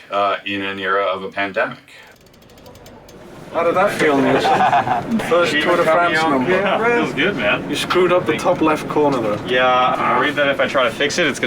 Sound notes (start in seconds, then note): 2.1 chain cracking